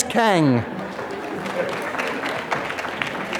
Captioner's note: applause